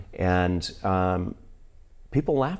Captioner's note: none